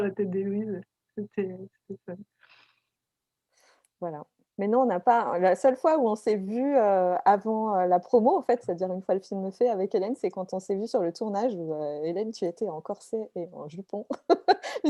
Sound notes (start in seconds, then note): 14.2 laugh